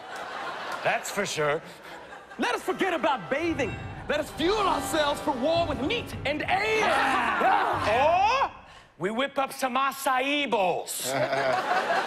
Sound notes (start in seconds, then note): 6.5 yelling; 11.0 laughter